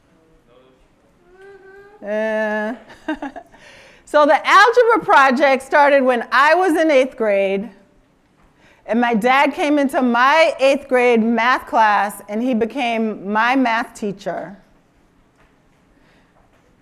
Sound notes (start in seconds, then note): 1.2 laughs